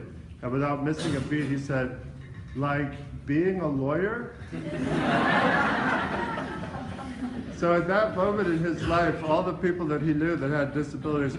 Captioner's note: laughing